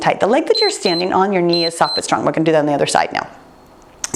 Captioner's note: timer beeps